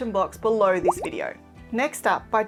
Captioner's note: graphics popping